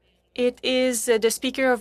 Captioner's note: speaking French